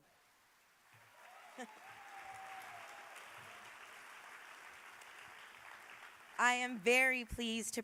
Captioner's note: applause